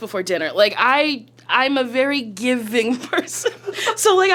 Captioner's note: laughs